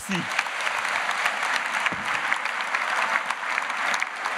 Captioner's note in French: Applaudissements